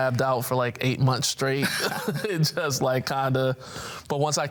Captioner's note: laughs